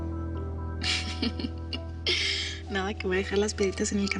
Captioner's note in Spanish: Risas